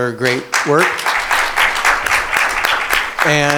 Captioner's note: audience applauding